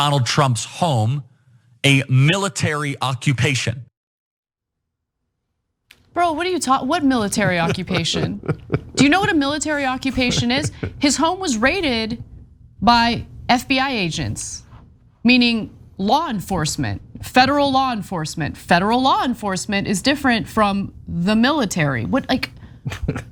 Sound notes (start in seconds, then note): 7.0 laugh; 22.8 laugh